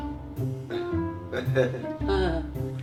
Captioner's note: awkward laughing